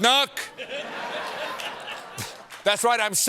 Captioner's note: laughter